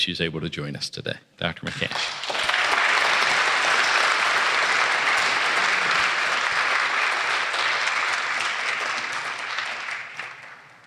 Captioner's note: applause